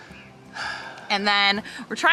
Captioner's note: sighs